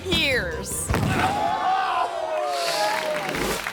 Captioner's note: thuds; crowd; audience applauding